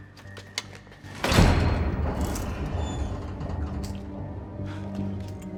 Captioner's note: door clanks and squeaks